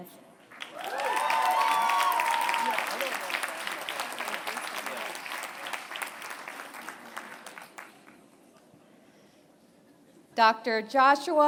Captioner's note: applause